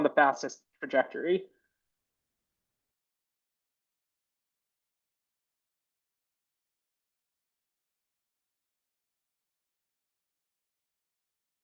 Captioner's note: some silence